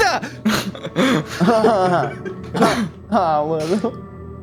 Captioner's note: laughter